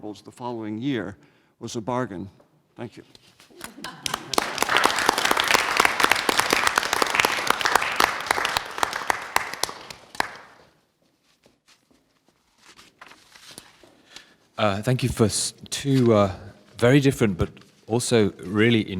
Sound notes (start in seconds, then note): 3.6 applause